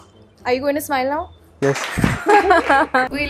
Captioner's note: laughs